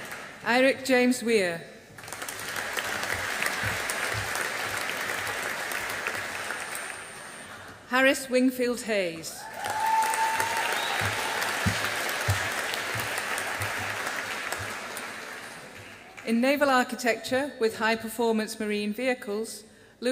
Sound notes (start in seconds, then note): 1.9 audience applauding; 9.4 audience applauding